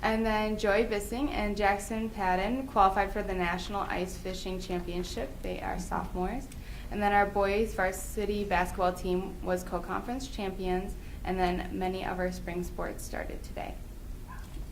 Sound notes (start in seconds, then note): none